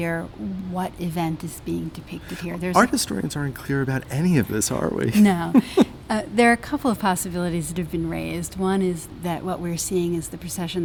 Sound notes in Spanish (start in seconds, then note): 5.1 risas